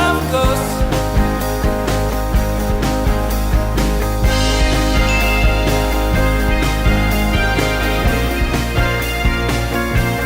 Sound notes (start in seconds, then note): none